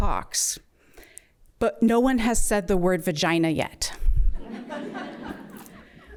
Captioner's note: laughter